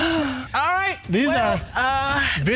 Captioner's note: moaning; audience laughs